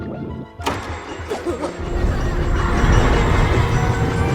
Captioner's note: children laughing; stammers